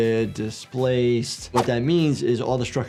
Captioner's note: graphics whooshing